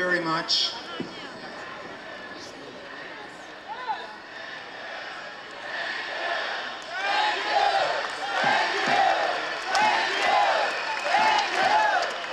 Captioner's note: crowd noise, chant gets louder as it goes